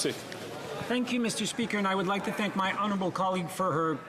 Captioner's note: speaking French